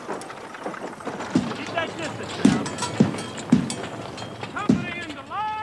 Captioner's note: wagon wheels rumble; shouting